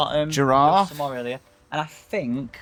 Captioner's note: southern accent